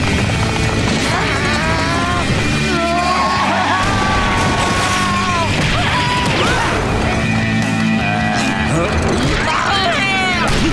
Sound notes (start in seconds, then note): 2.4 yelling; 8.0 screaming